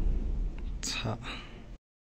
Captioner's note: explosion sound